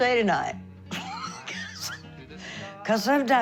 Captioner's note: laughing